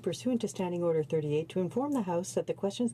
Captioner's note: speaking French